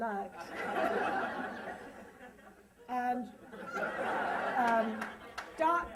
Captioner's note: laughter